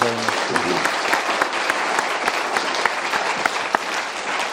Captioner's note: applause